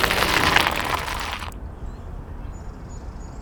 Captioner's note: tire skids in dirt; music stops abruptly